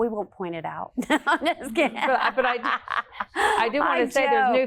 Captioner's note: laughs